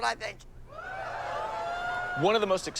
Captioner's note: loud chatter and hooting